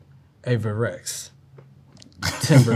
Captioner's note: laughs